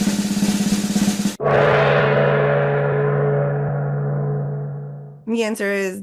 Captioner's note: drum roll; gong